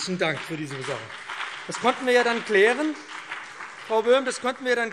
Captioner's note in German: Beifall BÜNDNIS 90/DIE GRÜNEN und vereinzelt CDU